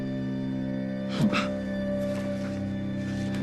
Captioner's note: Thomas gasps